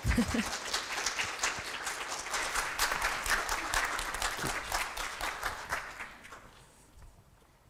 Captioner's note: applause